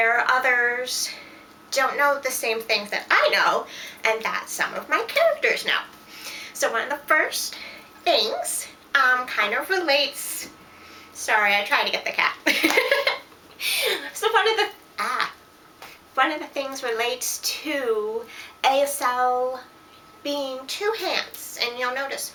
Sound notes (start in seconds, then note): 12.4 laughter